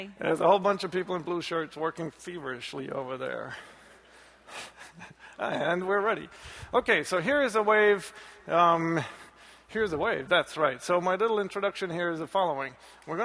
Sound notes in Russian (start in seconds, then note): 4.7 хихикает